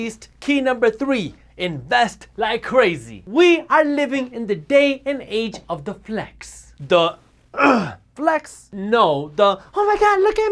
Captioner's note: grunt